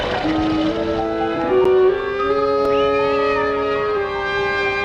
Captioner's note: cat Meowing